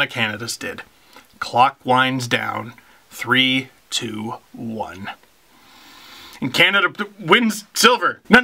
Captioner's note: breath